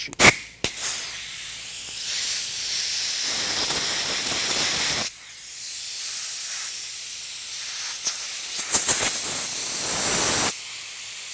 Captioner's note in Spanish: Soplando aire